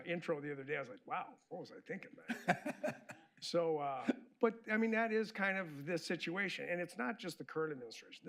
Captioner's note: laughter